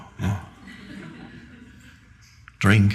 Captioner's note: audience chuckling